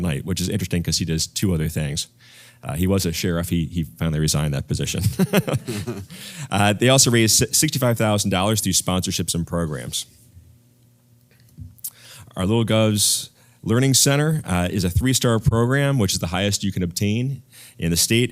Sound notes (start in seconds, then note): 5.1 laugh